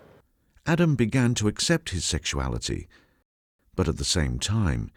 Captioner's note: voiceover